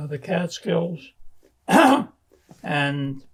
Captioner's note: clears throat